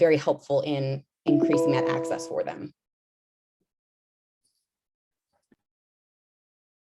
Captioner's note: computer tone